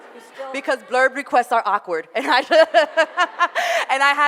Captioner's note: audience laughter; laughs